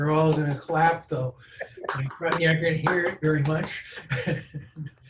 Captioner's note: laughs